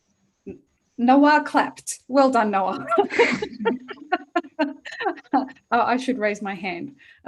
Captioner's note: laughter